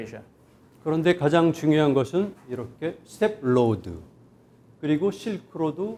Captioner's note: speaking in Korean